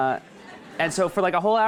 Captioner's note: audience chuckles